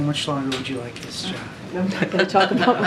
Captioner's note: laughter